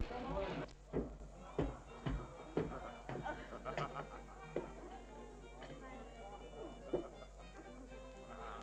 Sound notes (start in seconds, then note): 1.0 woman and Frank chattering and laughing